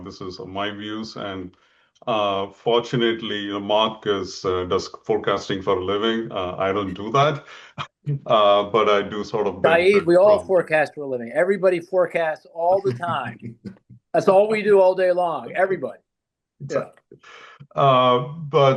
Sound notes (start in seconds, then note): 8.2 laughs softly